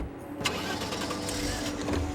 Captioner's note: engine turns on